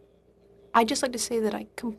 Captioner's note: speaking FRENCH